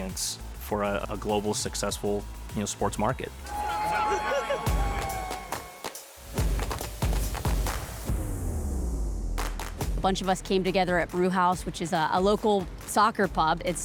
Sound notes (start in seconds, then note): 3.4 crowd shouting; 5.4 upbeat music